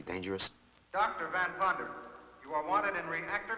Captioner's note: loudspeaker